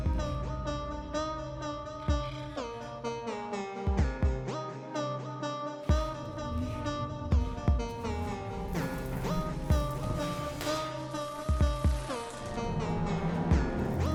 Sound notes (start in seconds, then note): 0.0 quirky electronic music playing; 9.8 vent clanks; 11.5 electricity crackling